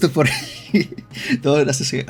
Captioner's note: laughter